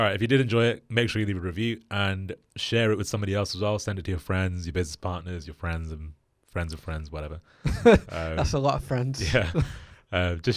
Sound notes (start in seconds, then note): 7.9 laughs